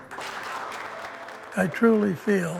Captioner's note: audience applauding